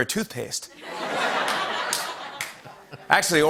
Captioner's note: laughter